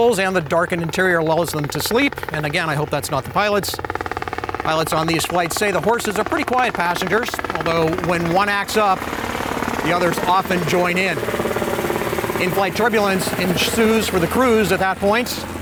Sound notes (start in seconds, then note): 3.6 airplane engine roaring